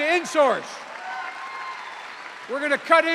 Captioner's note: cheers and applause